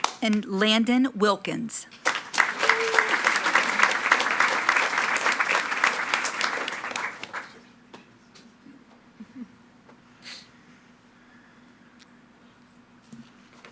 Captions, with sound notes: And Landon Wilkins. (attendees cheering and clapping)